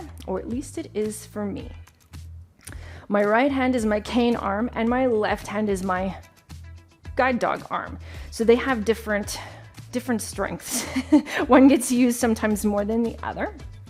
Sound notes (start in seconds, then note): 10.7 chuckles